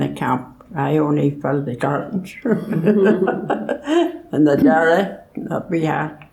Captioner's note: laughs